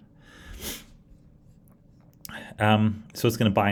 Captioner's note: sniffs